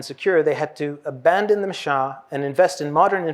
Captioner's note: hebrew